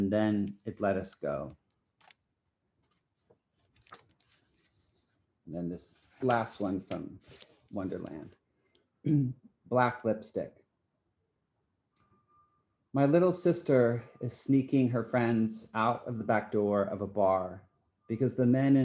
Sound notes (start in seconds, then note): 9.0 clears throat